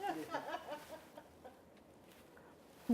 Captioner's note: laughing